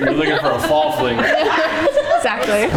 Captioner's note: everyone laughing